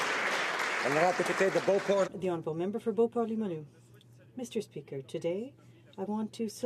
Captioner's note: applause